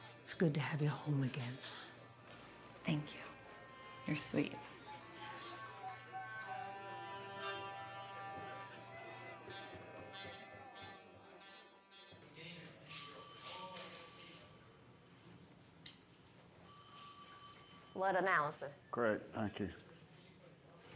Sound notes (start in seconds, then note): 13.0 officers chattering; 13.0 phone ringing